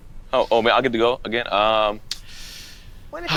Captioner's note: sighs